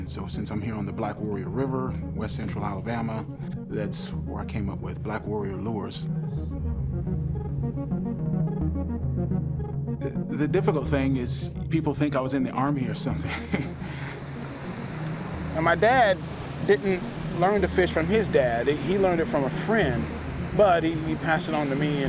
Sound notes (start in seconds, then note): 6.3 soft electronic music; 13.0 chuckling; 14.3 motor whirring